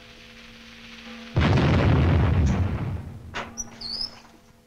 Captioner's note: explosion booming